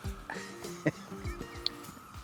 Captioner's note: laughs